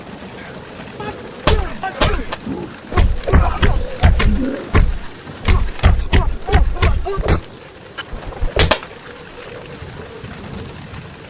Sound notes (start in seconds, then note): 5.5 thug groaning